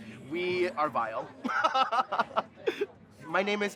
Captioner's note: laughing